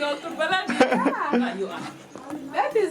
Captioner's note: speaking in foreign language